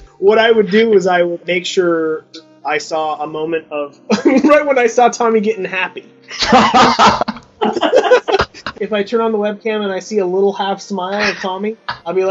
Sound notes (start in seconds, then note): 6.3 everyone laughs; 6.3 chuckles; 11.1 interviewers continue laughing